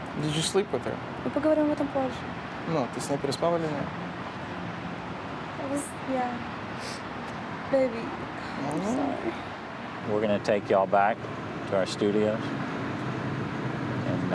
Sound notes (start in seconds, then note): 0.0 russian; 1.7 speaking russian